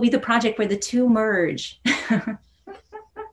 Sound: giggling

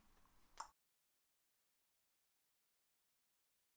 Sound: click with tongue

